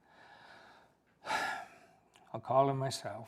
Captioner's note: sigh